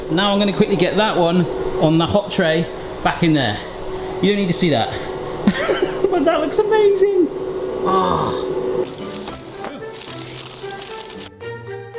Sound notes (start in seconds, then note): 5.8 laughing; 8.8 cheery music